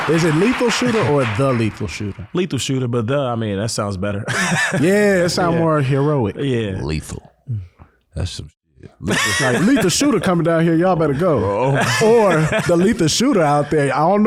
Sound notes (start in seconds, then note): 4.3 laughs; 8.9 laughing